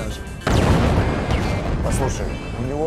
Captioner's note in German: Explosion